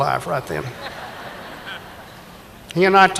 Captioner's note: audience laughing